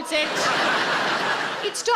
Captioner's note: audience laughing